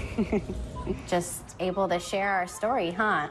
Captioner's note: chuckles